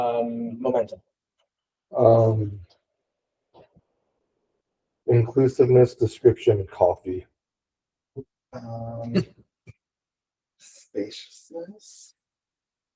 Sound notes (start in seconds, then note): 8.6 laughing